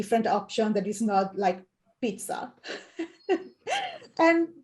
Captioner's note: laughs